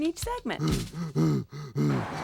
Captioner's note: man panting